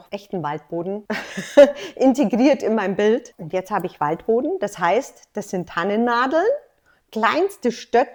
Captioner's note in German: lacht